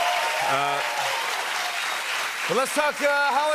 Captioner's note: applause